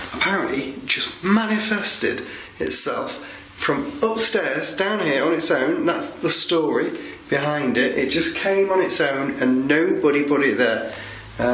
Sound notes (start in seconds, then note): none